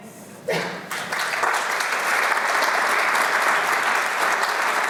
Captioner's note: applause